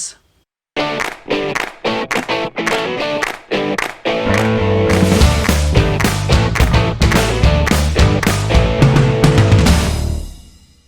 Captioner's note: claps